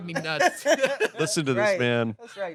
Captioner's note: everyone laughs